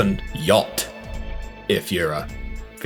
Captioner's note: echoing comically also